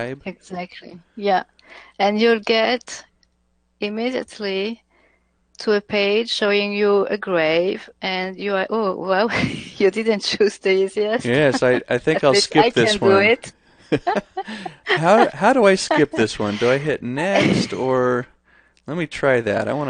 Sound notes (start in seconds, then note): 11.0 laughs; 13.8 both laughing